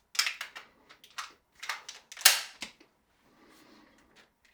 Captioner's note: gun clicking